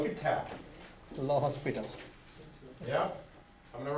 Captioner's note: voiceover